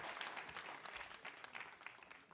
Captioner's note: applause